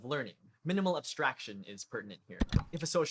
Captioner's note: click